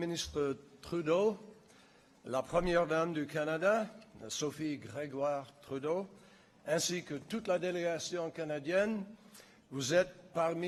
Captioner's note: in French